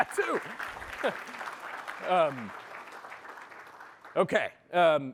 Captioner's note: applause